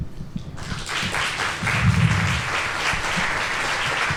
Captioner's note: audience applause